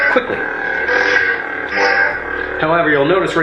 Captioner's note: electronic buzzing